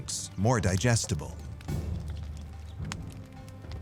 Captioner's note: fire crackling